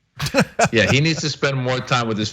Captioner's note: laugh